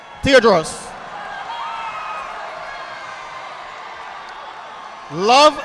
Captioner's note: audience applauding